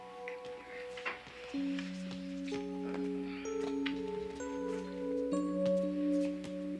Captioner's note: lips smack